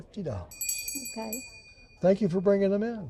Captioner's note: bell rings